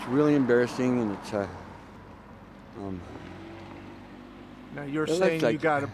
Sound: cars passing

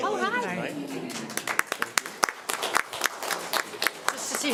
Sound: applause

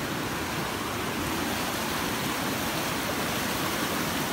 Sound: rushing water roars

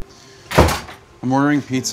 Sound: door slams

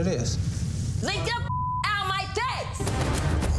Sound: beep; dramatic music

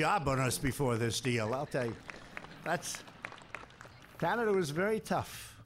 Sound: some Applause

